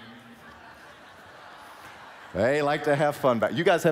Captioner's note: laughing